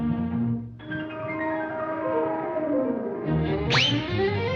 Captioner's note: air squealing